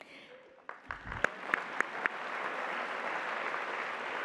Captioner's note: applause